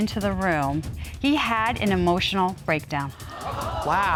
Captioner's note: audience gasps